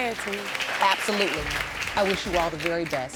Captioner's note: audience applauding